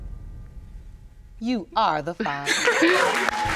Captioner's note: sobbing; applauding